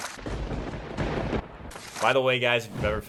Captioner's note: lightning strikes